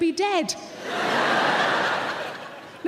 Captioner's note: audience laughing